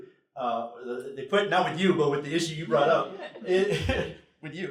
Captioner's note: laughter